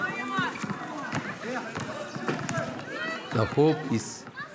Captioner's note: people speak foreign language